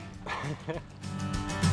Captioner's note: laughing